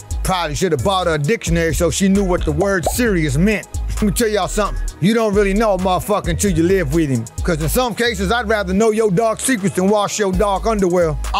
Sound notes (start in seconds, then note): 2.8 word pops